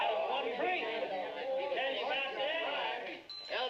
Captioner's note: men chattering